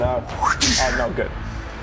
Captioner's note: wrrdssh